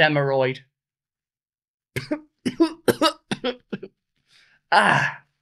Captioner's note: coughing